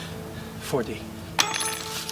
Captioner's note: clank